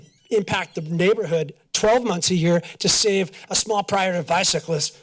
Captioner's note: none